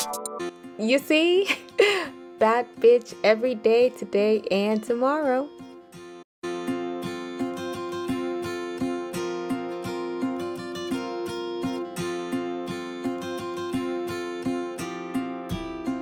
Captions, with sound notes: You see? *chuckles* Bad b***h every day, today, and tomorrow!